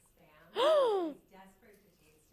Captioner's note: gasps